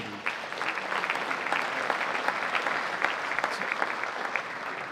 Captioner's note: audience applauding